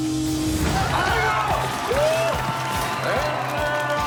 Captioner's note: cheering